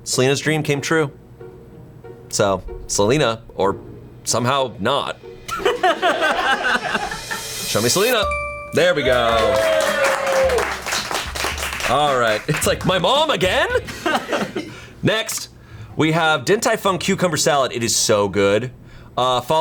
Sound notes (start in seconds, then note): 5.5 colleagues laughing; 9.0 colleagues applauding; 13.6 colleagues laughing